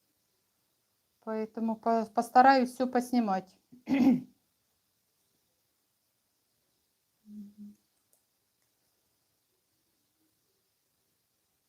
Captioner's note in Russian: откашливается